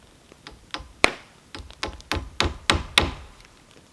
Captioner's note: hammering